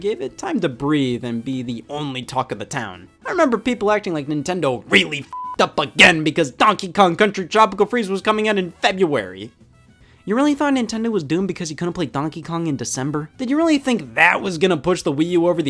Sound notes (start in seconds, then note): 5.0 beep